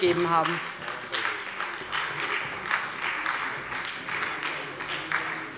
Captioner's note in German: Beifall bei der SPD